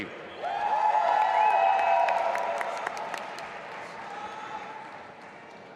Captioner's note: audience applauding and cheering